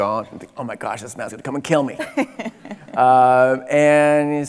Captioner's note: laughing